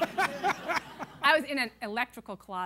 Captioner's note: laughter